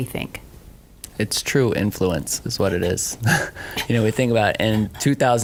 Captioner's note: laughs